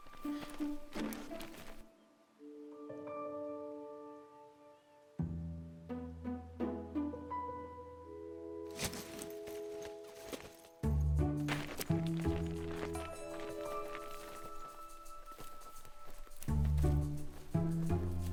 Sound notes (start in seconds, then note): 0.1 gentle orchestral music; 8.7 tent thudding; 13.8 gentle orchestral music continues